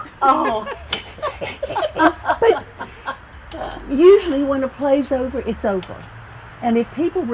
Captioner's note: laughter